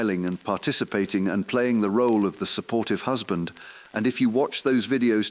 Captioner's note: exhale